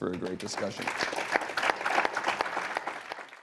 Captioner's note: applause